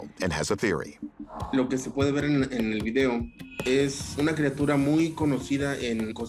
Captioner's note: speaking Spanish